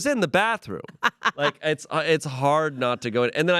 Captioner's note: laughs